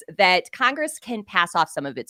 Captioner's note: none